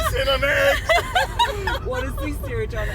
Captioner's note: hysterical laughter